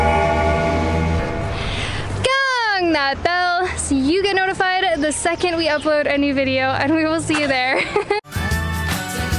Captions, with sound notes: GONG that bell! So you get notified the second we upload any video and we will see you there. (Laughs)